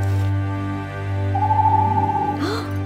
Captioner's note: owl hoots; Princess Oren gasps